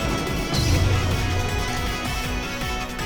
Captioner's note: Scream Tail's cry